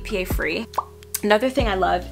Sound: mouth pops

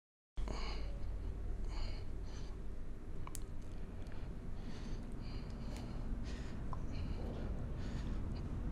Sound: moans

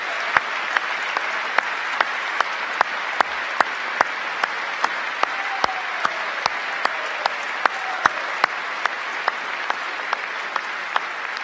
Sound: cheers and applause; applause

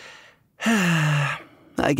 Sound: sigh

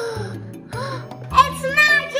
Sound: gasping

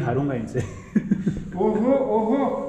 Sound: laughing

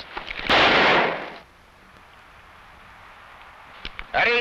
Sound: gun blasting

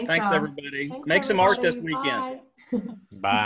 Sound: laughter

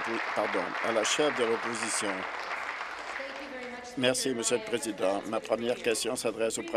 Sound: applause

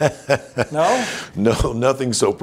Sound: laughs

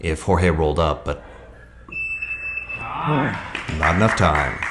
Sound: alarm beeps; spectator applauds

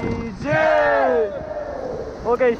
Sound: team cheering

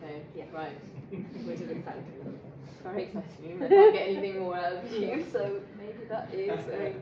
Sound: laughing

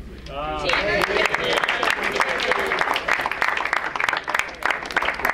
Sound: crowd applauds

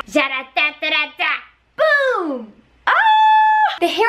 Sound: mimics Mario theme

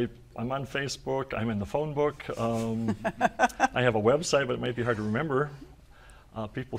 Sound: laughter

